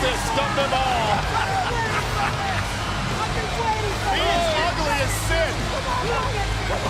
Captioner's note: laugh